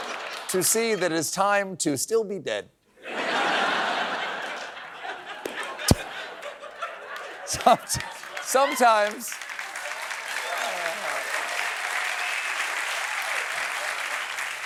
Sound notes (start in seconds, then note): 5.9 laughter